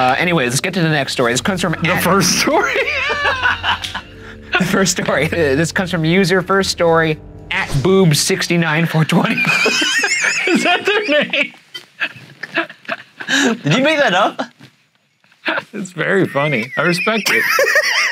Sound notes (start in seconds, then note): 3.4 laughing; 9.3 laughing